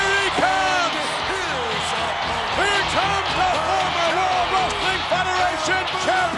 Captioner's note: audience cheers; upbeat music